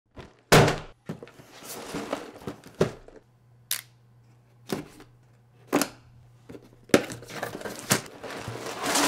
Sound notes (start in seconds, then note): 0.5 LEGO Box hits table; 7.0 Lego box opens